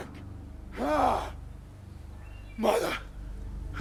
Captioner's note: birds chirping